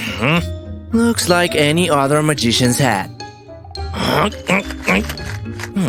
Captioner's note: grunting